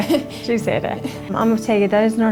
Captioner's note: both chuckling